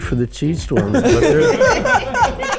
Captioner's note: group laughs